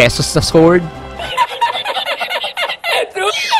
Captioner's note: laughing